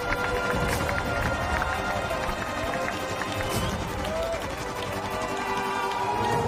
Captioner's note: applauding and cheering